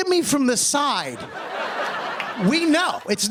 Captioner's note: laughter